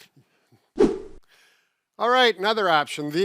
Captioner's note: air whooshes